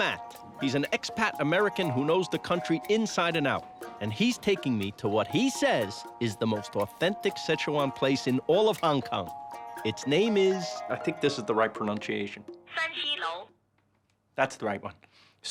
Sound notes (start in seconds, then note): 12.7 voice on phone